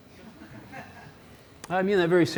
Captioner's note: audience member laughs